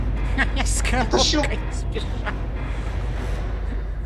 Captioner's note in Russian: смех